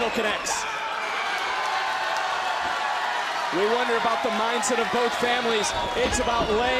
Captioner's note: crowd cheers